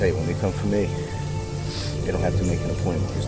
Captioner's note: sniff